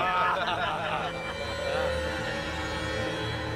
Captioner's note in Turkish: Gülme sesleri